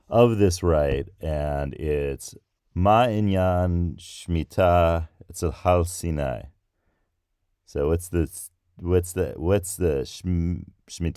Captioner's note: trying to speak Hebrew